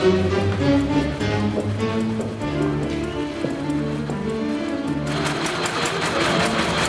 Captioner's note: machines whir